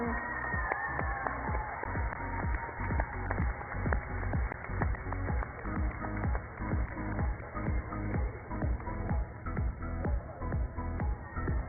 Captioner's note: cheers and applause